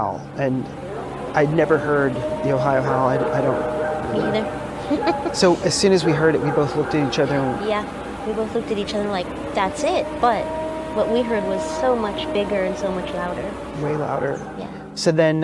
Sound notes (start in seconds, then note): 3.5 animal howling; 4.8 laughs